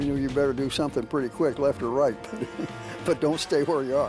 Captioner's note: chuckles